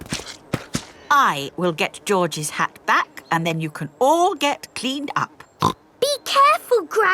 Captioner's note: snorts